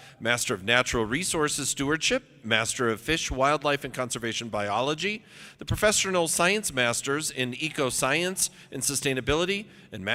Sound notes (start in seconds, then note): none